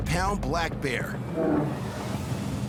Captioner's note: bear growls